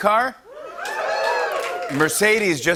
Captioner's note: cheers